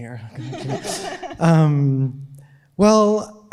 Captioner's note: audience laughing